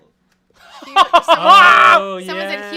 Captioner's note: laughs